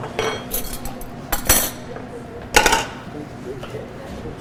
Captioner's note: metals clinking